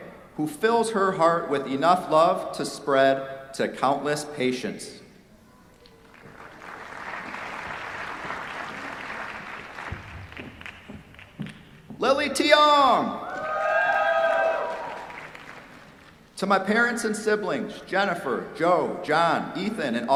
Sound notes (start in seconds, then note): 6.0 applause; 13.2 cheers, applause